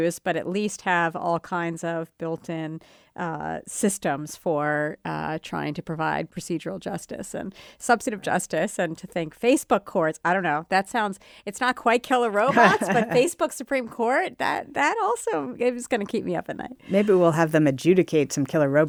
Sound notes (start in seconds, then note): 12.4 laughs